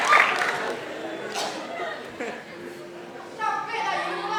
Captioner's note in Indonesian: Batuk